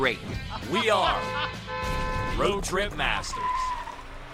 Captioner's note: honking; tires screeching